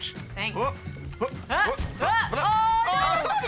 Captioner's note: both grunt